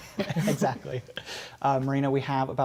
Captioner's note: laughter